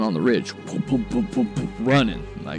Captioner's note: mimics running sound